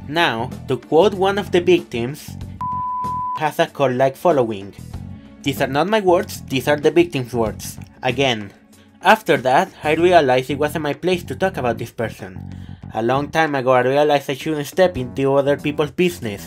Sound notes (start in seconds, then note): 2.6 beep